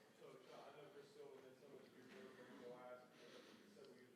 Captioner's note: faintly speaking